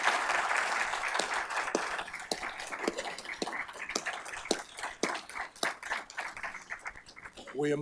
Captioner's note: applause